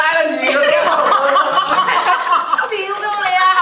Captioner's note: EVERYONE laughs